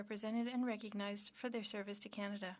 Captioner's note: speaking French